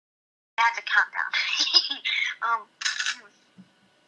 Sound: chuckles

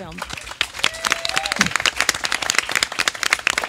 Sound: audience claps

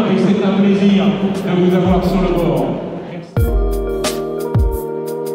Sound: announcements in French over speaker; upbeat music

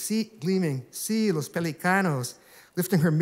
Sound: speaking spanish

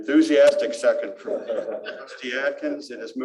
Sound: laughter

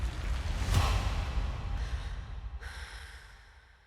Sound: voices exhaling

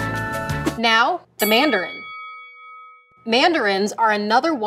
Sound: bell dings

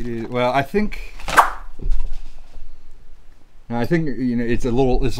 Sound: rustling; whooshing

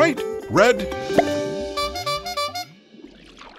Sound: honking sound

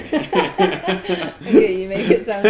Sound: both laugh

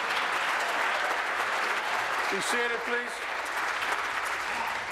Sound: applause

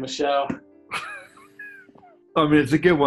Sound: sniggering

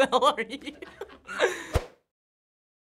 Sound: cracking up

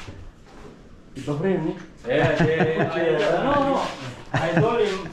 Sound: laughs

